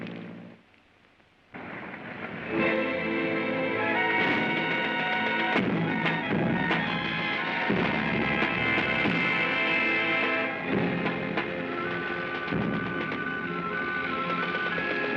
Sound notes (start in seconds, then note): 0.0 airplane rumbles away; 0.0 flames crackling; 2.2 dramatic ominous music; 2.5 artillery firing; 13.1 dramatic ominous music